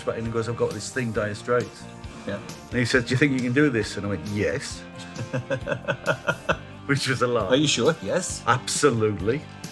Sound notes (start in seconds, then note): 4.9 laughing